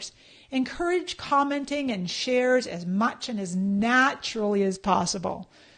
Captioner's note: none